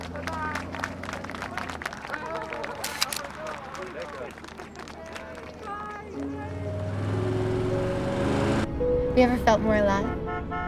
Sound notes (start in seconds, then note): 2.8 camera clicking; 9.8 horn honking